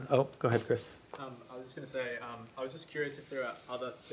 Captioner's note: voiceover